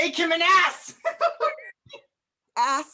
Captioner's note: Sir Andrew giggles